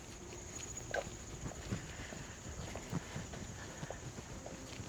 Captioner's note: crickets chirping